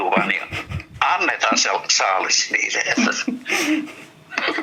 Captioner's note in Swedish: Skratt